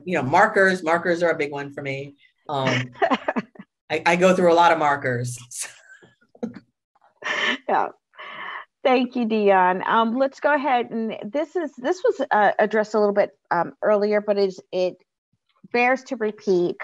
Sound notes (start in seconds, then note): 2.6 laughter